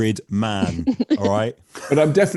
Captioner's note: laughing